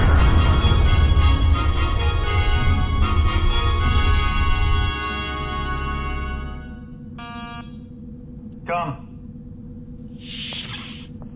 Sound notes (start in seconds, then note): 7.2 door signal buzzes; 8.9 door opens